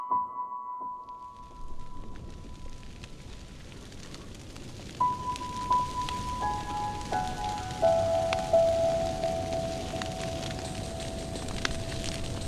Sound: crackling fire

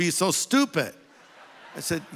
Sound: audience laughing

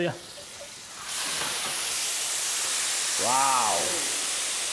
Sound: hot steam sizzling

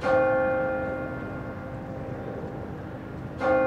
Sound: bell dinging

